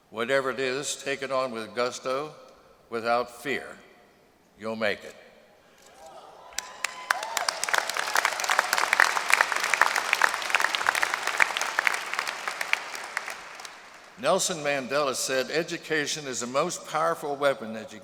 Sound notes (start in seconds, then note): 6.5 applause